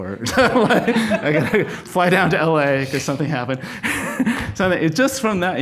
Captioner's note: laughs